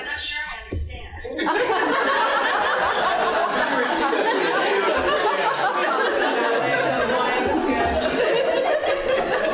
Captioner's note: laughing